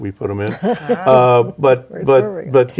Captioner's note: laughs